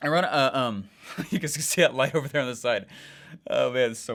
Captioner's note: chuckles